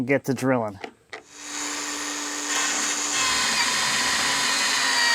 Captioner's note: drill whirring